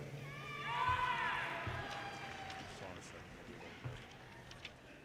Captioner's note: audience cheers and applause